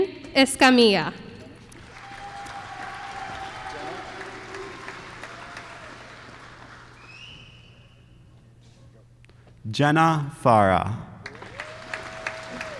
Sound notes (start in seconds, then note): 1.6 applause; 11.2 applause